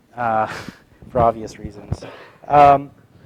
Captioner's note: laugh